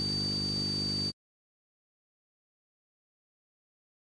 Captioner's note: high-pitched buzzing